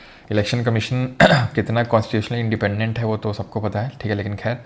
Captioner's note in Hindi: गला साफ़ करने की आवाज़